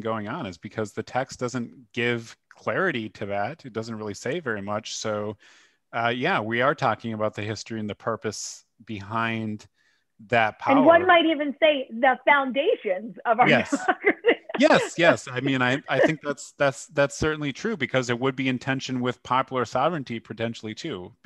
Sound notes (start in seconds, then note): 13.4 laughter